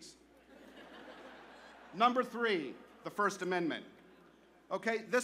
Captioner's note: laughter